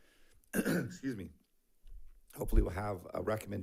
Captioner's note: clears throat